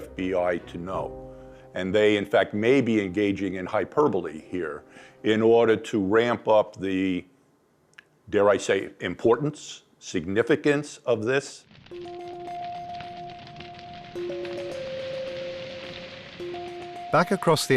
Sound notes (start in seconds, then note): 11.5 fire crackling; 11.9 tense music